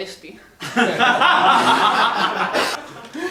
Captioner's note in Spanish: Risas